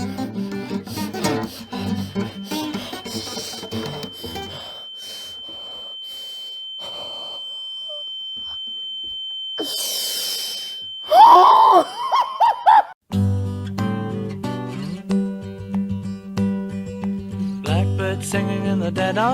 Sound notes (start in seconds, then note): 3.6 high-pitched ringing; 11.3 maniac laughter